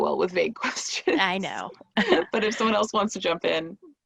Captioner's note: laughing